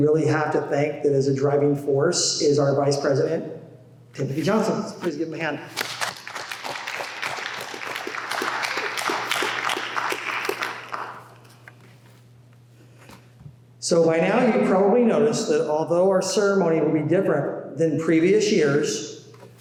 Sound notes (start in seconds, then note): 5.8 applause